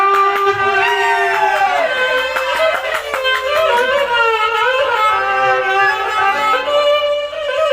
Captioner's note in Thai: ปรบมือ